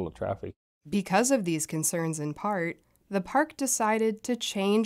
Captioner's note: voice-over